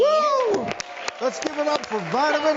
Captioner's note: audience applauds